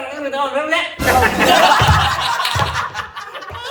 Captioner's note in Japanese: 笑い声